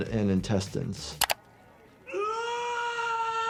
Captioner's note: Termite screams